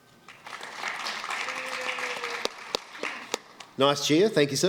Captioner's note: applause